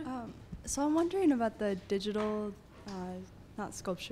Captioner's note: voiceover